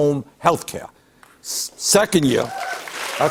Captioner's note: cheers and applause